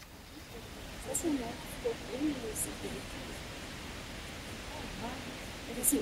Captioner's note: speaking in foreign language